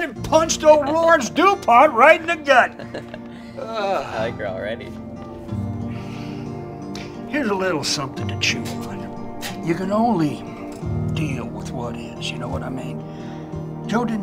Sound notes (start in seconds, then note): 2.1 Nic laughs; 5.8 Junior sighs